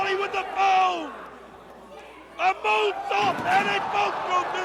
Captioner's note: crowd cheering